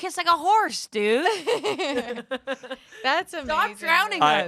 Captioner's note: everyone laughs